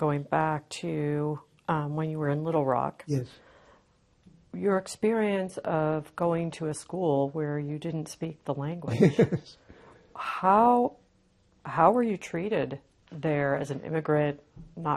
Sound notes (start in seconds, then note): 8.9 laughing